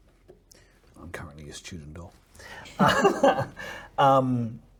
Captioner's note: laughs